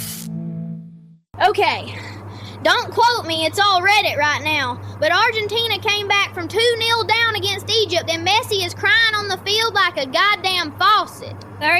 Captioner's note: breath